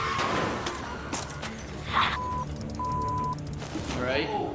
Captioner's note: crash, bleep